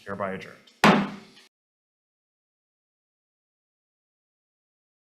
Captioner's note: gavel bangs